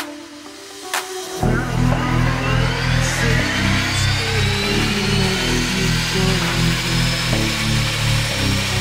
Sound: sound of Merlin III’s engine #1 starting

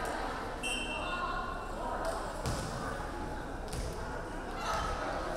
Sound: referee whistling

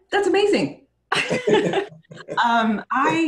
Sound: laughs

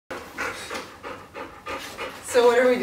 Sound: dog panting

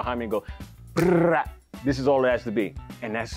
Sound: rolls tongue

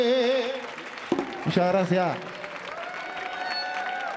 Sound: audience clapping

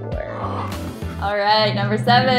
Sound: gasps

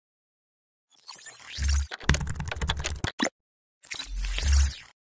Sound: keys tapping

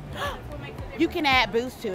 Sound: gasps

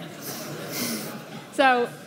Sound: audience laughing

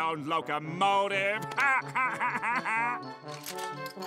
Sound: laughing

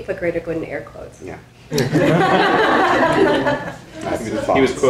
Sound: audience laughing

